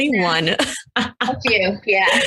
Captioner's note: laughs